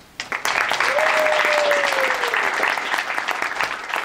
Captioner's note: audience claps